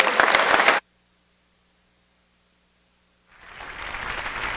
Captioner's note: crowd applauding